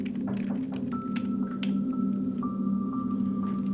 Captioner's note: door knocking